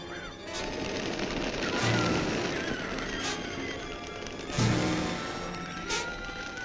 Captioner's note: tense orchestral music; birds screeching